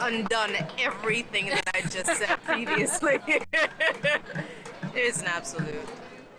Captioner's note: laughs